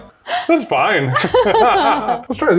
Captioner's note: laugh